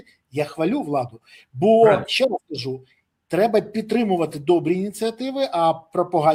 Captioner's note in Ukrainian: прочищення горла